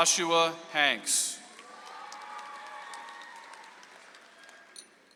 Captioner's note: audience applauds